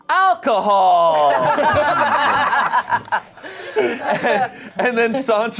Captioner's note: everyone laughs